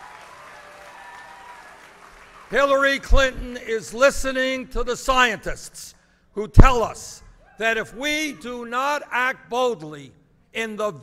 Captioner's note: applause